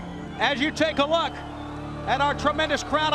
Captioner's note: crowd cheering